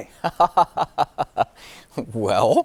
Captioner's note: laughing